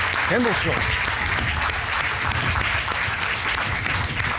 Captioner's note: applause